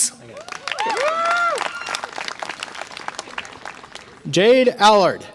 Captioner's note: audience applause and cheer